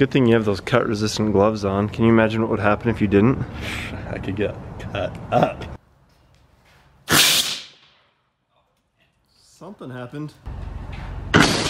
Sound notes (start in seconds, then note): 7.1 shoots air cannon